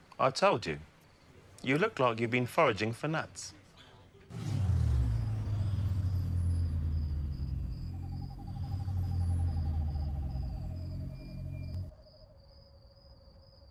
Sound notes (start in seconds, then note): 4.2 engine rumbles; 12.0 crickets chirping